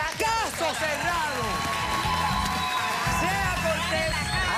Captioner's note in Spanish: aplausos